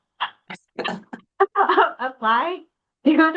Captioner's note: people laughing